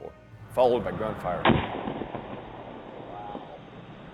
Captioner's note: explosion booms